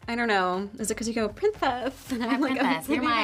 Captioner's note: speaks with a lisp